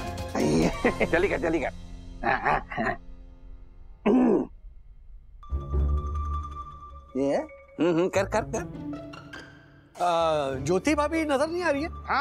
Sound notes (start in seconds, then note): 0.4 laughs; 4.0 clears throat